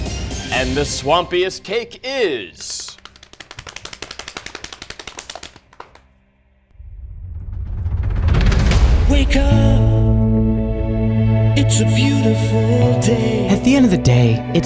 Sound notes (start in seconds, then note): 2.6 all patting; 7.0 thrilling music